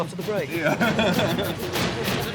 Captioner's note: group laughs; dramatic music plays